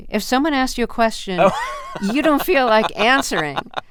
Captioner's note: laughter